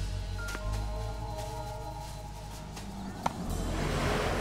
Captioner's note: brakes screeching